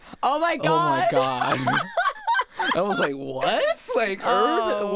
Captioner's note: laughs